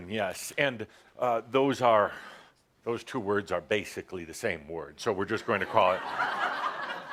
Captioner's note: laughter